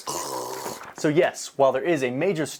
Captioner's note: groaning sounds